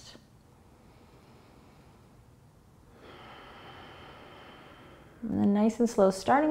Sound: breathing

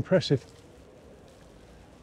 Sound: nature sounds

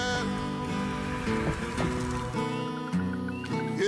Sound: mystical whoosh

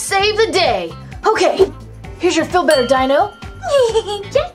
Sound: ding; laughs

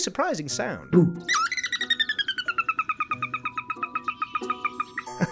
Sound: rapid, high-pitched twittering

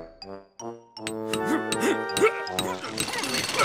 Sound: chiseling; grunting

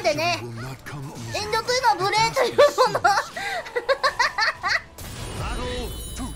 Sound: laughing

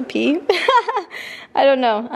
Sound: laughs

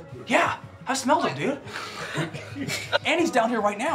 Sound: everybody laughs

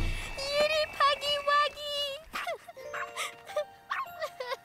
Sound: cries

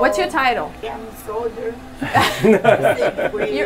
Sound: all laughing

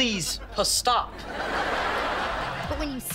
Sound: laughing

